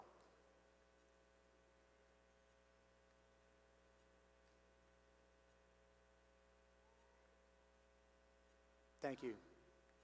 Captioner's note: silence